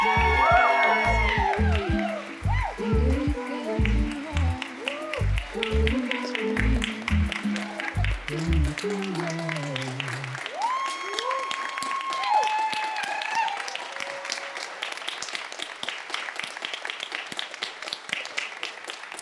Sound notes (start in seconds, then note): 10.5 audience and actors applauding and cheering